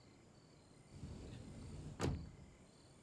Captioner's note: crickets chirping; door sliding; crickets chirping